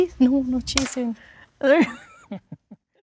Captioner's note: board snapping; laughing